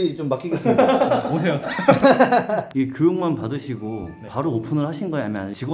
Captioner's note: laughing